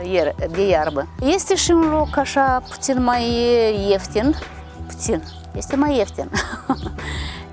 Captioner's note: laughing